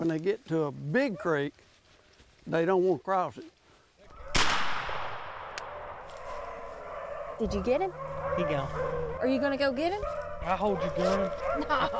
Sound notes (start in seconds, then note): 4.3 gunshot